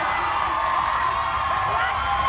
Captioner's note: crowd cheering